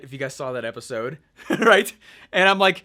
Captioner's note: laughing